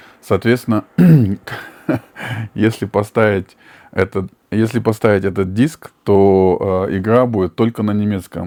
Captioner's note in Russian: откашливается